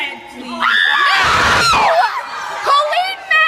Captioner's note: audience screams